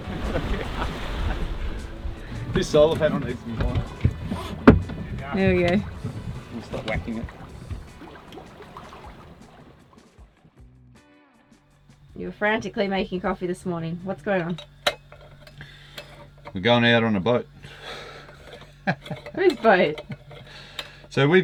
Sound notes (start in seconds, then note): 0.1 laughing; 8.3 waves splashing; 17.6 laughs